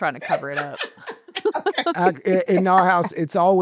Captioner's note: chuckling